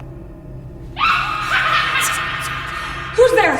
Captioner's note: disembodied laughing